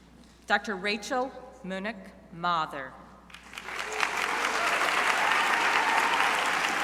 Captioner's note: crowd applauding